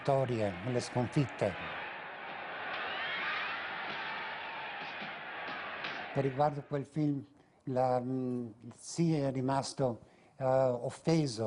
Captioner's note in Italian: Applauso